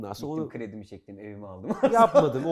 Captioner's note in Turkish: laughter